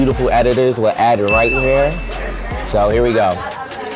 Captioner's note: ding